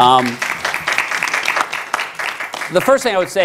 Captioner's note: applause